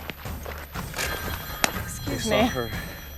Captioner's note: phone ringing